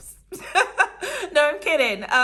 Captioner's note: laughing